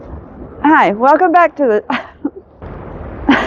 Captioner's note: laughs